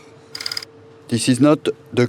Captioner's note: slide rolling